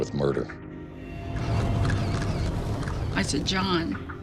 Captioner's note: camera shutters clicking